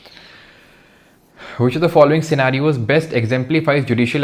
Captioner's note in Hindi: गहरी सांस लेने की आवाज़